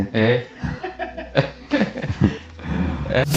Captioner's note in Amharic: ሳቅ